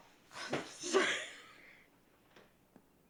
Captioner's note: sobbing